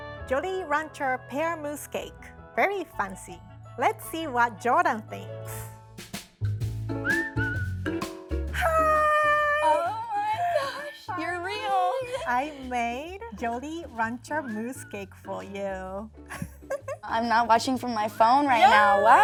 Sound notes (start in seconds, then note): 6.1 cheerful music; 16.3 laughs